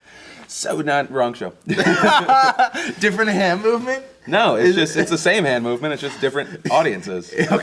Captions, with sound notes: So not-- wrong show. [LAUGHTER] Different hand movement? No, it's the same movement, just different audiences.